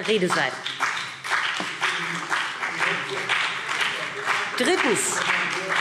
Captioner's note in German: Beifall